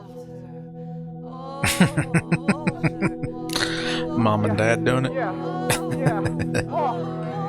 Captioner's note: laughing